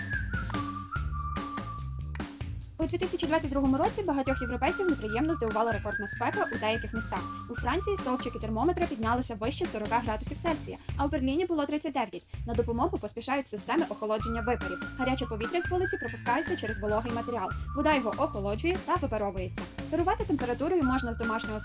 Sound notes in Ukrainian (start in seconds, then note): 0.4 оплески